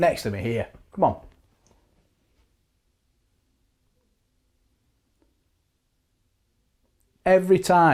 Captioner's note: silence